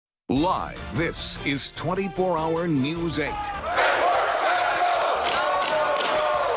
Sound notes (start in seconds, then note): 3.6 nats of protesting